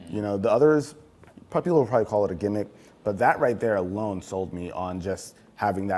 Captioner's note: none